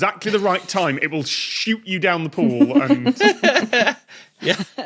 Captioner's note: giggle